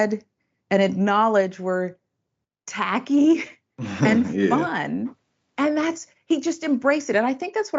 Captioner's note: laugh